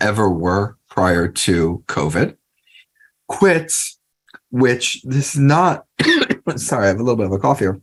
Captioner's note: cough